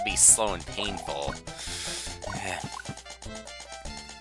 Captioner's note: breathing